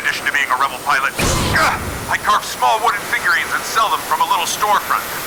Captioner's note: ‘boom’ from plane